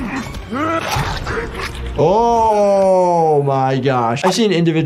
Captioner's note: Omni-Man grunting; dramatic music; bones crunching